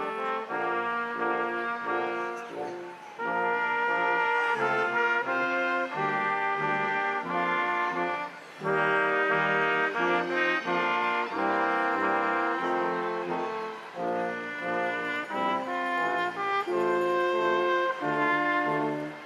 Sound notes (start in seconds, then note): 6.8 crowd applauding; 6.8 instrumental music continues